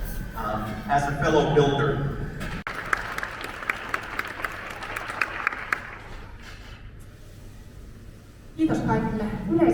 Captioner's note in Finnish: Aplodeja